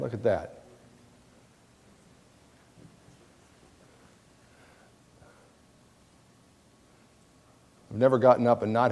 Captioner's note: pause in dialogue